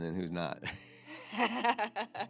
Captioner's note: laughter